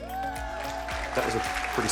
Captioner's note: audio of crowd cheering playing